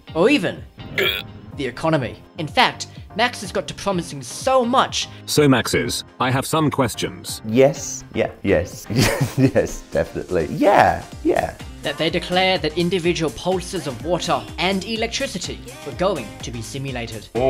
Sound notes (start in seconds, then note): 8.9 laughing